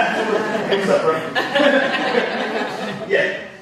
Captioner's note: audience laughing; audience laughs